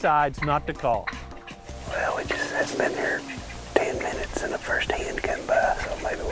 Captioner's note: whispering